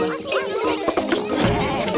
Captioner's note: laughter